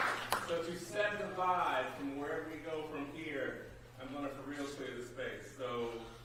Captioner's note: applause